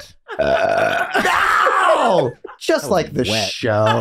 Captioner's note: Charlie burping